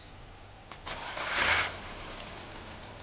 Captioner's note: car engine starting; persian music is playing